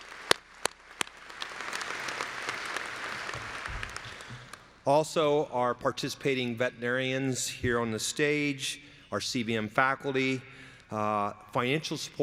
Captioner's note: applause